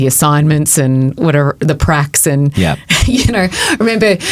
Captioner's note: chuckles